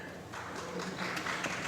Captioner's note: applause